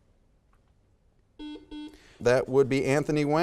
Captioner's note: buzzer beeps